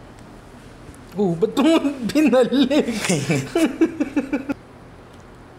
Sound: laughs

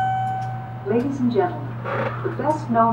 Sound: elevator Voice

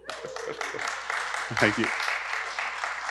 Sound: audience clapping

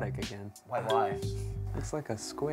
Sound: ding

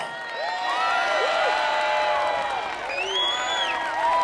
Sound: crowd cheering

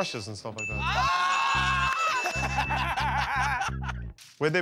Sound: laughter

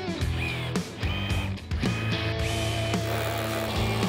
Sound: drill drilling

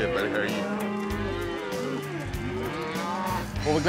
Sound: cows moo

